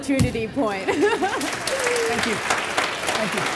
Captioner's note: audience applause